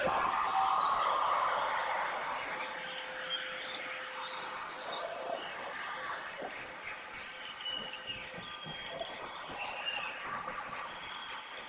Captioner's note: cheers and applause